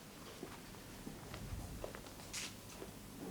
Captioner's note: none